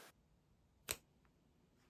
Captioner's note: click